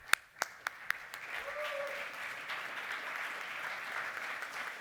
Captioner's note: applause